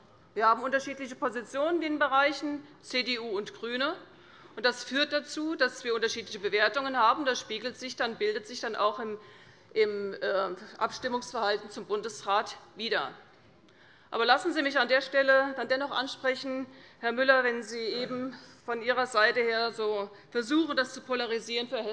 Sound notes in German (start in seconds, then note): none